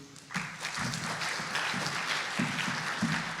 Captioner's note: applause